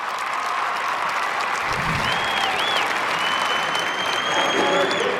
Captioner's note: crowd cheering